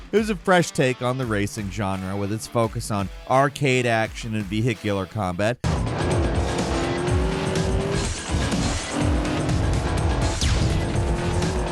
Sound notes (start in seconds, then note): 6.0 upbeat music; 7.4 vehicle engine roaring